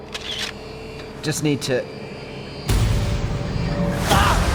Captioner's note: camera shutter clicking; screaming